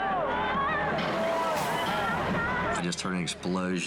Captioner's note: audience screaming